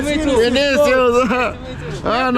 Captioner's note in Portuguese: falatório